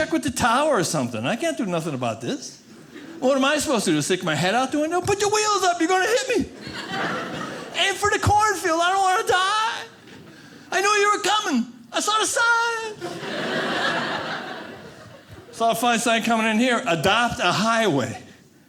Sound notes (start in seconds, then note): 6.6 audience laughing; 13.0 audience laughing